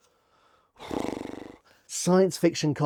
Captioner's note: non-verbal mouth noise